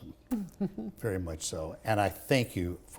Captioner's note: chuckles